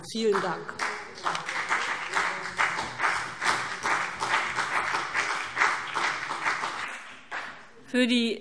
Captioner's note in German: Beifall BÜNDNIS 90/DIE GRÜNEN und CDU - Zurufe SPD